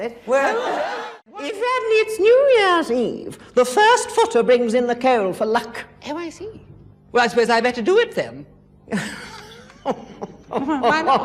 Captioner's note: laughs